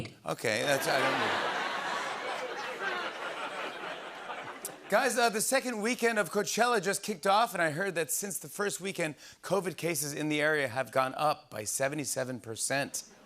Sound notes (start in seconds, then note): 0.6 laughter